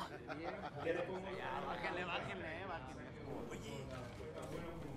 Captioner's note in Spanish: se oyen voces y risas